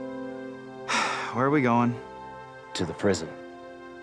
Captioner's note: sighs